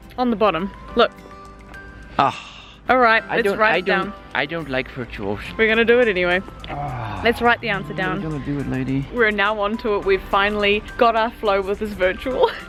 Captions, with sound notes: On the bottom, look! - Ah.. Alright, let's write it down. - I don't like virtuals. We're gonna do it anyway. (Man sighs) Let's write the answer down. (Man sighs) - Are we gonna do it, lady? We're now on to it, we've finally got our flow with this virtual.